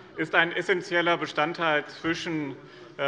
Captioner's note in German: none